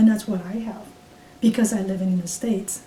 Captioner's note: none